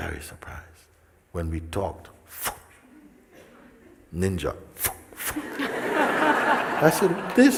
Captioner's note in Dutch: gelach